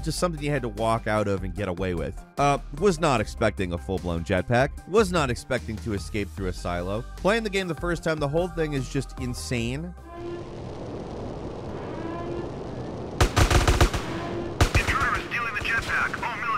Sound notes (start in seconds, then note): 10.0 alarm wails; 13.1 guns blasting